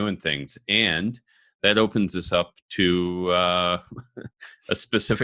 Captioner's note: laughs